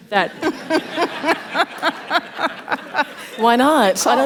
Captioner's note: laughter